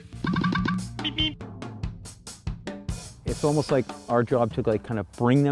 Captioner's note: Roadrunner beeps